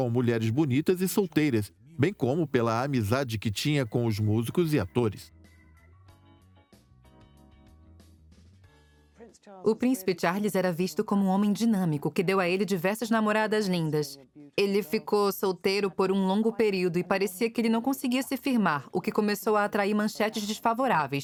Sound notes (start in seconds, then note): 3.5 upbeat music; 9.0 voiceover